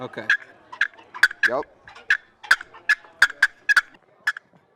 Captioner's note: turkey call clucks